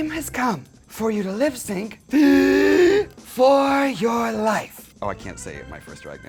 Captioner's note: breathes deeply